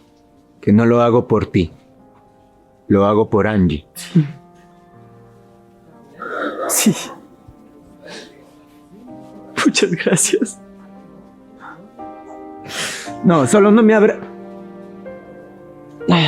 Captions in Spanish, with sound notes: que no lo hago por ti, lo hago por Angi. Sí. [resoplido] Muchas gracias. No, solo no me abre.